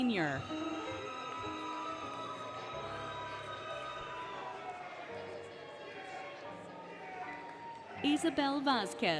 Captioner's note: applause, Cheering, Music